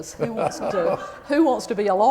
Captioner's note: laughter